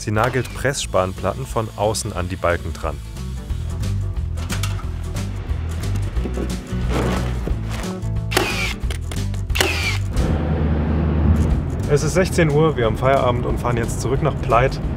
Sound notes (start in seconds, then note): 3.7 loose music; 8.3 clacking, whirring